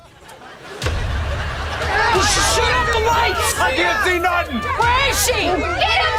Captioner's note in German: schreiend